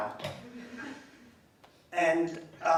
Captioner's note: laughing